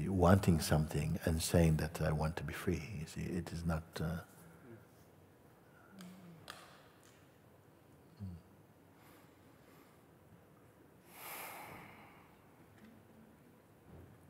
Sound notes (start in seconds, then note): 6.6 Stille